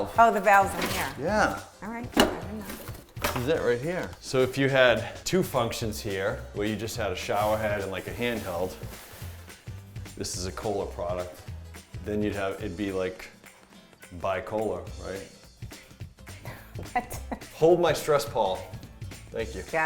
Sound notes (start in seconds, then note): 16.5 chuckling